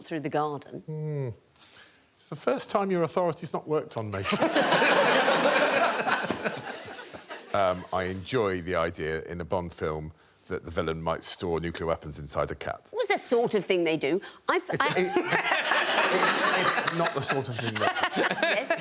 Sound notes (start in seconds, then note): 6.4 laughter; 17.3 laughter